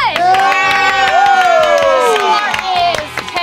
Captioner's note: audience applauds